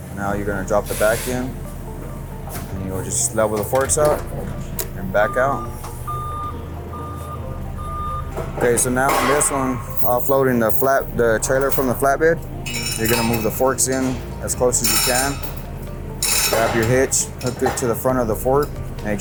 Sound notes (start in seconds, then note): 5.6 lift alarm beeps; 15.4 chains jangle